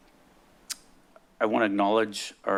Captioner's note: smacks lips